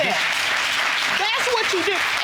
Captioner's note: audience whooping and cheering